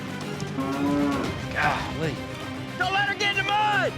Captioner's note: mooing